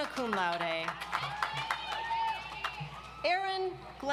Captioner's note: audience applauds